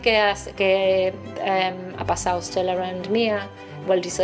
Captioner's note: speaks foreign language